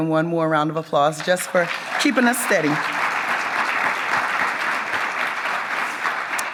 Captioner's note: audience claps